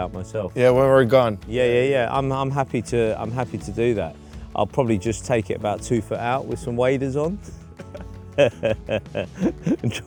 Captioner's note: laughter